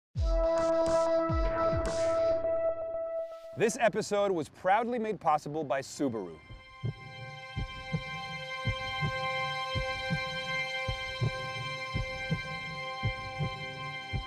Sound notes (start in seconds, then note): 6.4 heartbeat